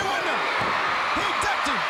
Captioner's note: crowd cheering